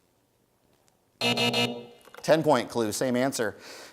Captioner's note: buzzer sounds